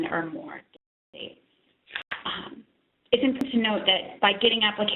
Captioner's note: audio dropping